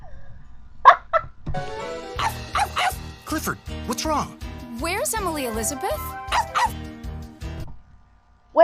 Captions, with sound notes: (laughing) - (barking) - Clifford, what's wrong? - Where's Emily Elizabeth? - (barking)